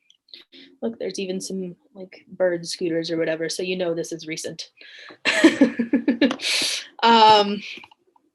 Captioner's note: laughs